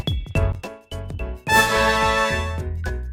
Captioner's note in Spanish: sonido de celebración